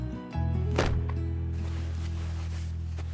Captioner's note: cloth rustle